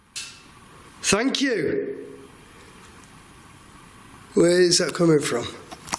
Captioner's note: soft clanking